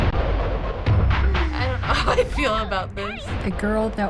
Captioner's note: laughs